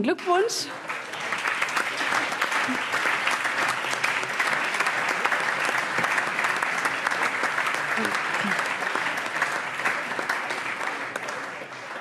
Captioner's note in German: Allgemeiner Beifall